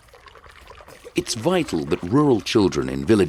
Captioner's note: none